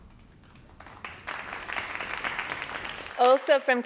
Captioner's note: crowd applauding